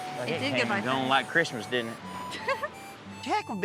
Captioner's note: giggles